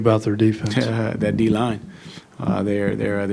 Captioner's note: chuckles